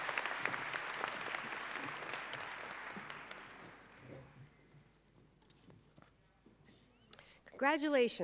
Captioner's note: applause